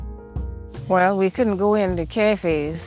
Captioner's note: soundbite of archived recording